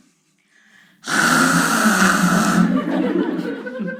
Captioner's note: sound of dad brushing his teeth in the morning